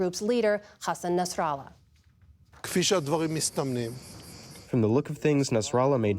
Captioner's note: through translator